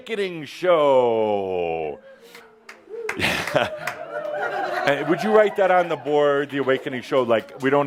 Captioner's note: a few in audience says “Woo”